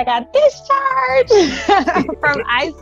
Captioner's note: laughs